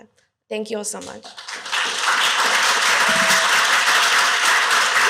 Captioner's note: applause